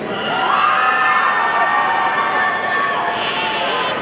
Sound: audience cheering

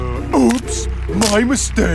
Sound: toy cracks

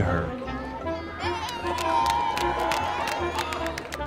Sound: cheers

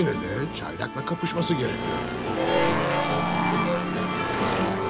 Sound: engine roars

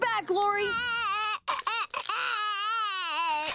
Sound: crying

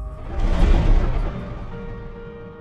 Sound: logo whooshing; soft music

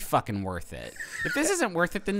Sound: snickering

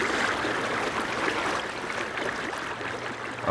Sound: water splashing

